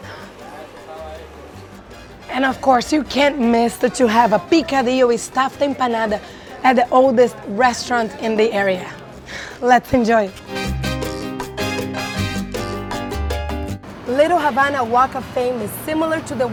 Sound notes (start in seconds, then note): 4.1 speaks in foreign language; 11.1 upbeat Latin music